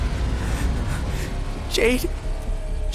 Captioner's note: shaky breathing